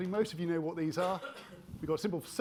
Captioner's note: attendee coughing